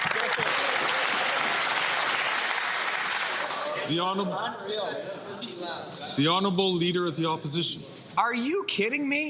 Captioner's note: applause